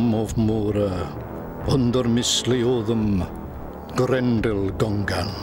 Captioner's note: man speaking Old English